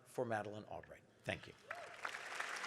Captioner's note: audience applauding